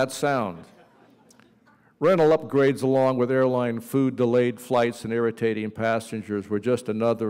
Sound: laughter

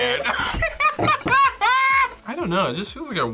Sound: both laugh

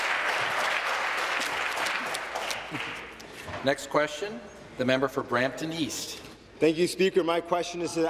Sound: applause

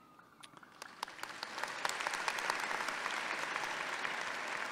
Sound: audience applauding

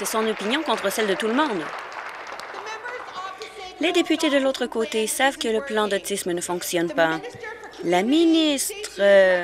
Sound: applause

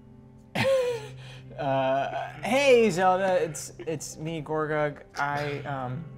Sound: gentle instrumental music; laughs

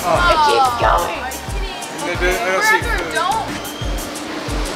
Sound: groaning from all

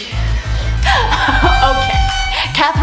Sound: laughs madly

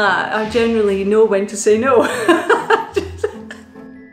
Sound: laughs; wistful music

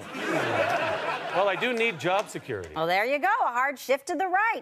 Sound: audience laughter

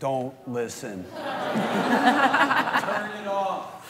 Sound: laughter

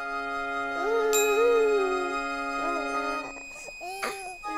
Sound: gentle orchestral music; baby giggling

